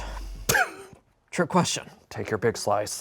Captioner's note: laughs